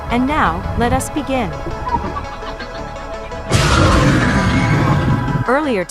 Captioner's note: demogorgon screams